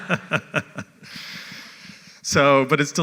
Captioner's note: laugh